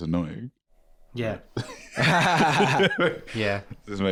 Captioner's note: laugh